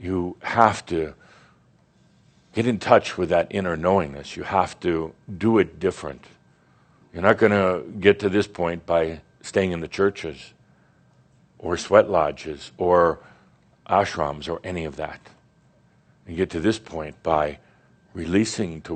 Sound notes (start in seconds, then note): none